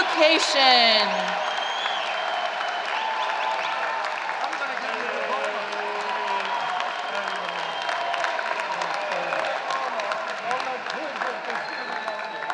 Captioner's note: applause and Shouting